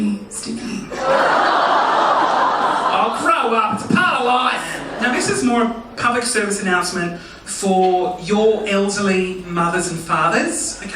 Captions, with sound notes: (audience laughing) Oh grow up! It's part of life. Now this is more a public service announcement for your elderly mothers and fathers, okay?